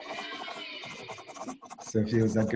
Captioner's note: soundboard counting